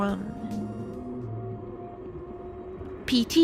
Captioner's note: spooky low-pitched feedback noise